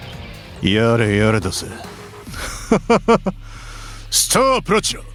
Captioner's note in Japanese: 笑い